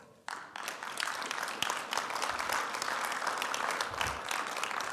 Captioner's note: audience applauding